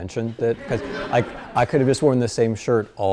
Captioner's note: class laughs